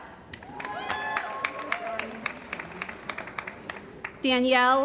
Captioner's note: cheering & Applause